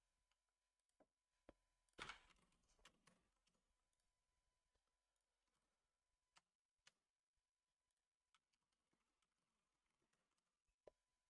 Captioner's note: silence